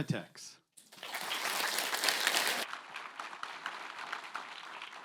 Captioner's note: applause